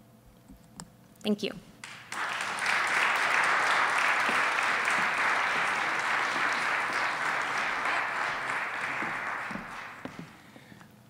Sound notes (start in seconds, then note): 1.8 applause